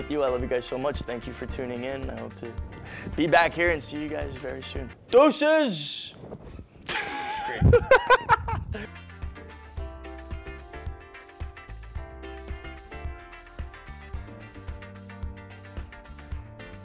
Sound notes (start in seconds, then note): 6.8 laughs; 8.8 light music